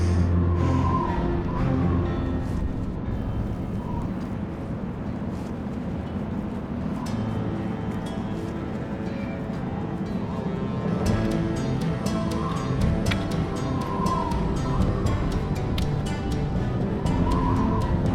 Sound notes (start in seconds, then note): 6.1 tense music; 6.1 wind whistling